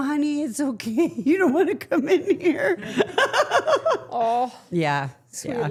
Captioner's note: laughing